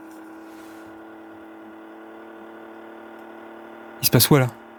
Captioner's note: the radio emits a curious whirring sound